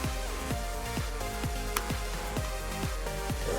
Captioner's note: claps softly